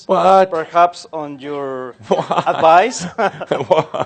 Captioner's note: they chuckle